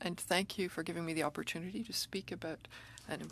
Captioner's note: speaking French